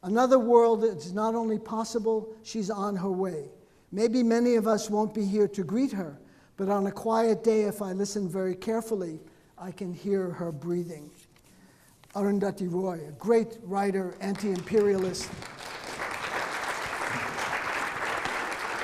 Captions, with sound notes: "'Another world that it's not only possible, "'she's on her way. "'Maybe many of us won't be here to greet her, "'but on a quiet day if I listen very carefully, "'I can hear her breathing.'" Arundhati Roy, a great writer, anti-imperialist. (audience clapping)